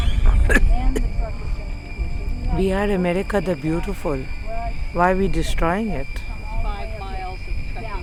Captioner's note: coughs